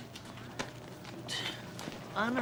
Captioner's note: sighs